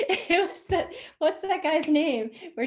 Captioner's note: chuckles